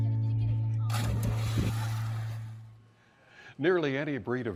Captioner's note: water splashes